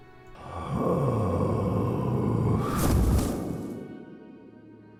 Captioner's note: man Groans and falls